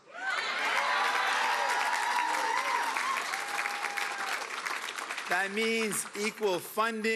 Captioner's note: cheering and Applause